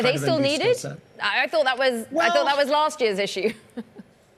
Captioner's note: laughter